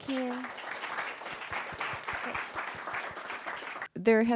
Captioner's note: applause